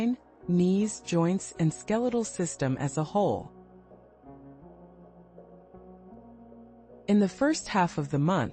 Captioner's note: pause